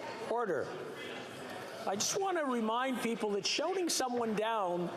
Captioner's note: chatter